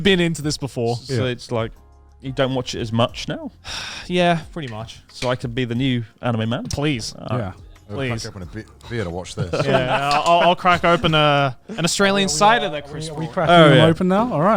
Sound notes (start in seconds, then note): 9.3 laughs